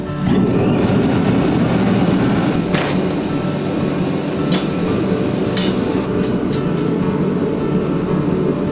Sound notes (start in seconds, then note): 0.0 strong air blowing